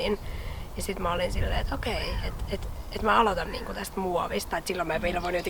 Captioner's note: wind goes whoosh